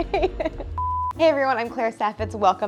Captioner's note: beep